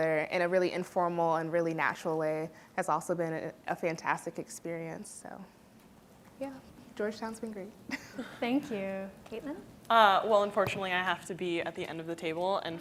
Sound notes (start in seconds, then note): 7.8 laughs